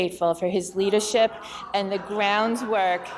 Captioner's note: audience chattering